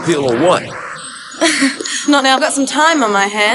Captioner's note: Jodie laughs